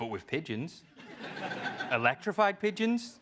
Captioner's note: laugh